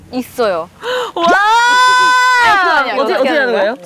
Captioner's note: giggles